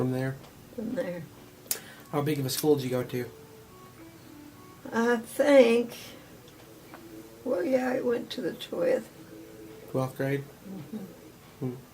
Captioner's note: mmmhmmm